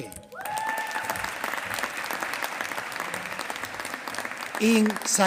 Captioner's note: applause